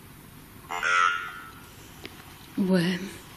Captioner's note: OVILUS buzzing